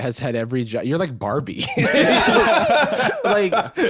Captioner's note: both laugh